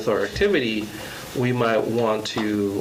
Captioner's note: none